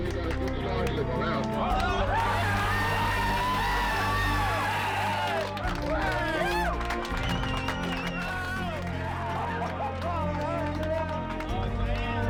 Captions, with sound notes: >> Okay we got a good strong signal now. [Cheers] [Clapping] >> Woo! [Cheering and clapping]